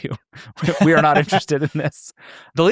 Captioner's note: both laughing